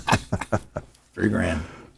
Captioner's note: panelists laughing